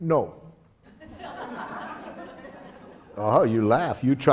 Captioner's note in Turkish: Gülüşmeler